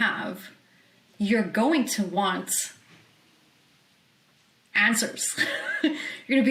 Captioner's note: laughs